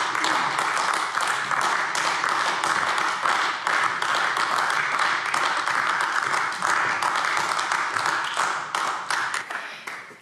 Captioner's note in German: Beifall AfD